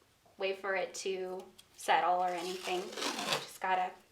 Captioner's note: masking tape rustling